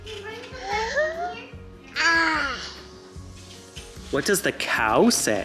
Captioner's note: cooing